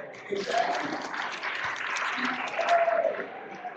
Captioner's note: applause